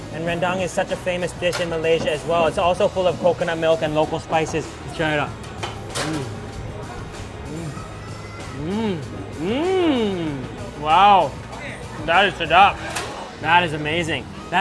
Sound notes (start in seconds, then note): 7.5 mumbles; 11.8 speaks in foreign language